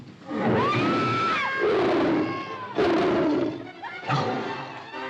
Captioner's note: tiger growls & snarls; screaming & growling; suspenseful music; tiger growling